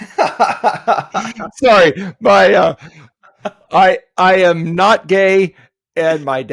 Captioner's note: laughing